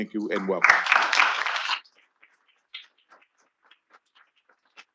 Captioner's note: attendees applauding